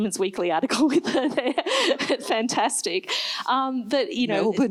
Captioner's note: laughs